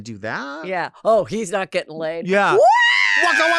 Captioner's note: wails